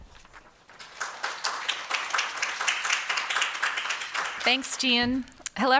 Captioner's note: audience applauding